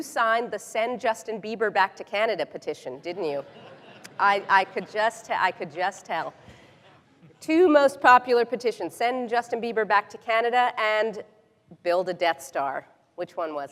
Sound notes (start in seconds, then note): 5.8 laughter